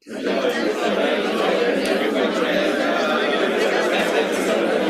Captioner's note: chatter